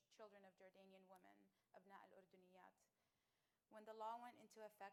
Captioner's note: speaking arabic